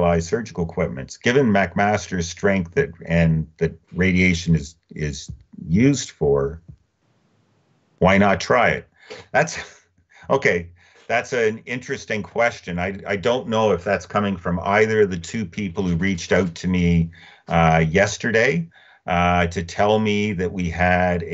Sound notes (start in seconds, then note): 9.1 chuckling